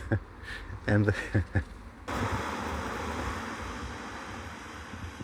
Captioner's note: laughs